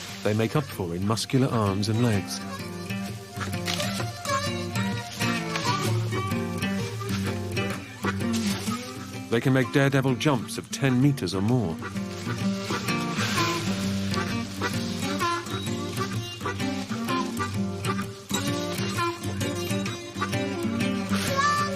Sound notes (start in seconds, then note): 12.8 branches ruffle